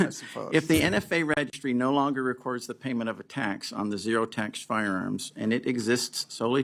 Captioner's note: laughter